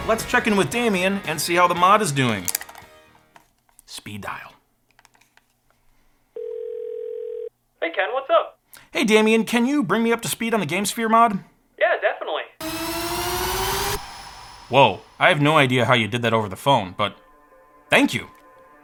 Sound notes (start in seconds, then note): 6.3 phone ringing; 12.6 frenzied music